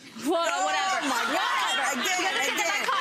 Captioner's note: audience laughing